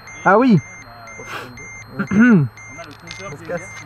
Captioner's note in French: alarme